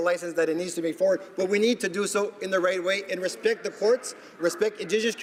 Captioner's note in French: voix de l'interprte